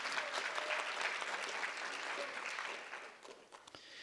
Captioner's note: audience applause